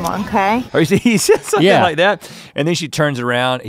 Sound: laughs

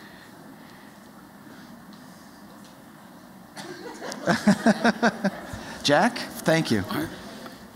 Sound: laughter

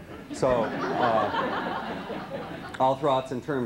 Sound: laughter

